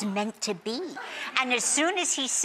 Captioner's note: audience laughs